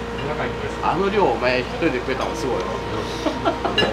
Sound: laughs

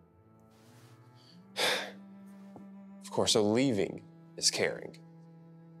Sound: sighs

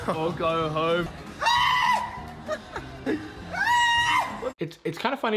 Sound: man screams

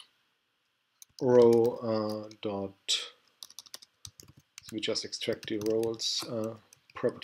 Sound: typing

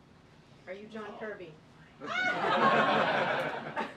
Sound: laughter

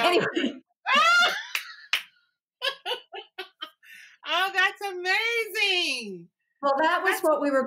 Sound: laughter

